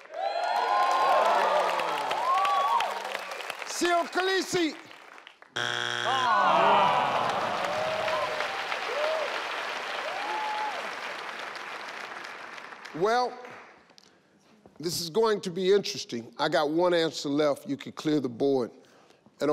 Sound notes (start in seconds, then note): 0.0 audience cheering; 5.5 screen buzzing; 6.0 audience awing